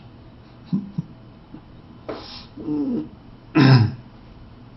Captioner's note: Eckhart chuckles